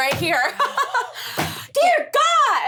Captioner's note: laughing